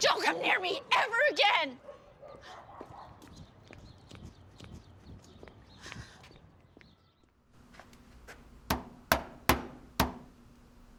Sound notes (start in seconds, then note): 3.7 birds chirping